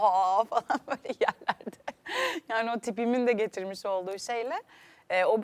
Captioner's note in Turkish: kahkaha